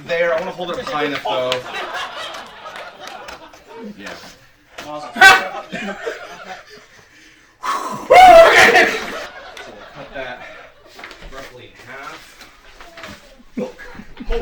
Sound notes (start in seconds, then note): 1.3 laughter; 7.0 exhales; 8.3 laughter